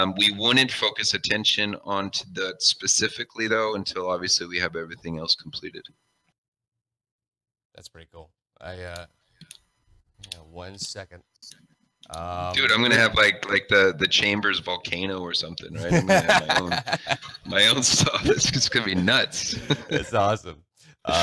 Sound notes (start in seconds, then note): 18.5 laughing